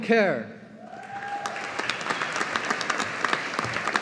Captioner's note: audience applauding